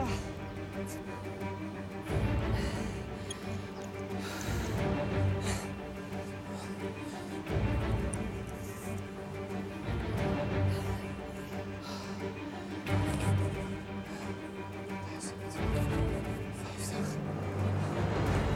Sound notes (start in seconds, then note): 15.9 fluisterend